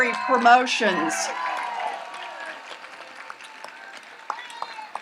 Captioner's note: audience applauds and cheers